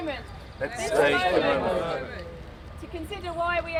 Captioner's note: crowd